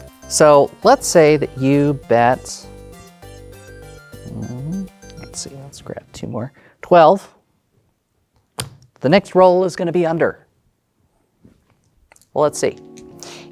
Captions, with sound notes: So, let's say that you bet... Hmm... let's see, let's grab 2 more... 12. (song ends) (tokens thud) The next roll is gonna be under, Well, let's see. (new song begins)